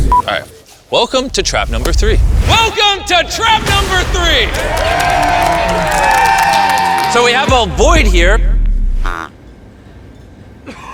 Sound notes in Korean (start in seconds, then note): 4.2 환호